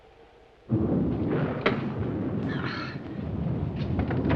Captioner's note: thunder